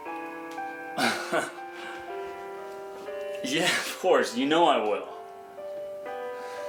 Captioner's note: laughs